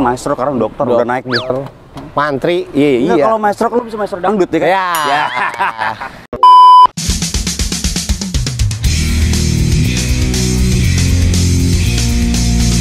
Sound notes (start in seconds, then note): 4.8 laughter